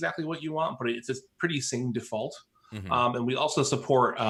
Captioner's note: murmurs